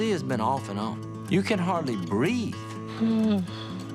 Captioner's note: sighs